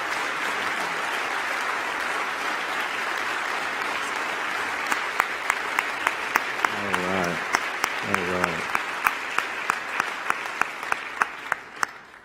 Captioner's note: applause